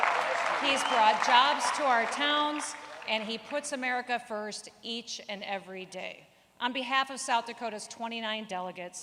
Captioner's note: applause